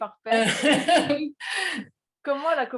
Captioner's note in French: rires